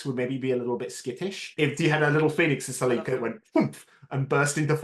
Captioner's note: poof